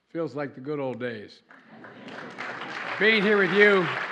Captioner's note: applause